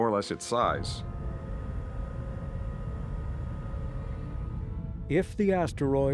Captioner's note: telescope whirring